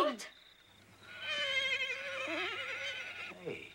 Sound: horse neighs

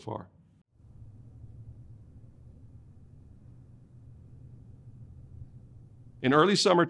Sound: silence

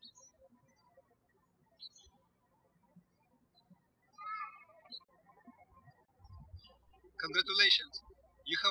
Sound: birds chirping

